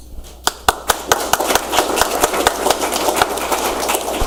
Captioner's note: audience applauds